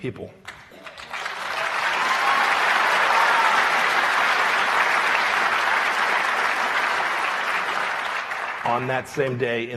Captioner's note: applause